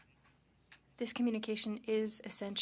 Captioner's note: speaking French